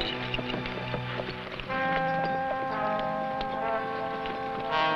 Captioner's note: horse hooves pattering